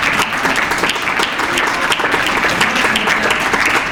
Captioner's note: applause